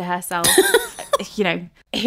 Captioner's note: laughing